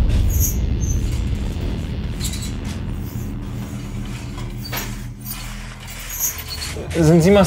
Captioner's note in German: Quietschen